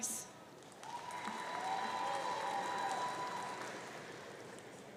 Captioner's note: audience cheering